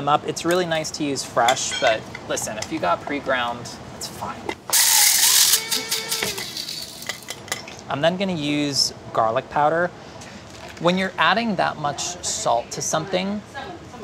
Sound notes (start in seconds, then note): 4.7 grinder whirring